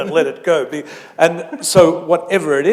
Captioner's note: chuckle